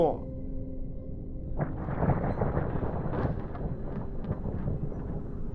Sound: thunder clapping

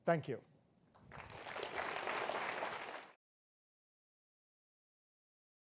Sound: audience applauding

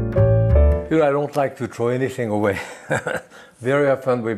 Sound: calm piano music; laughs

